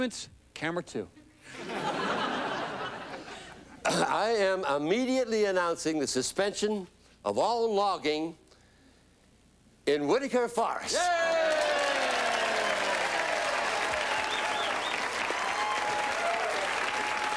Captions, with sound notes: ALL ANNOUNCEMENTS, CAMERA 2. [CLEARING THROAT], I AM IMMEDIATELY ANNOUNCING THE SUSPENSION OF ALL LOGGING IN WHITAKER FOREST. YAY! YAY! YAY! YAY!